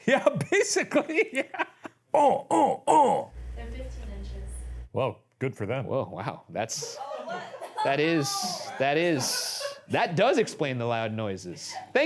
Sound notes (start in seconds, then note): 2.1 laughs; 6.8 giggles